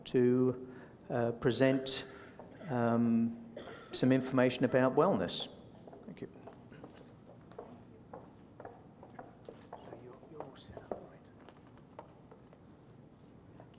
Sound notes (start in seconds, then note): 6.8 footsteps; 8.3 whispering